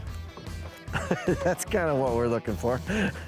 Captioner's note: upbeat rock music continues; laughs